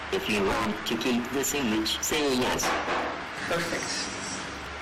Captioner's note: voiceover